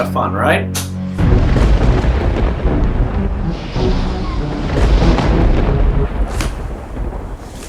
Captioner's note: dramatic music; thunder clapping